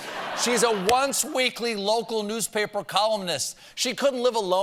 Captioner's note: laughter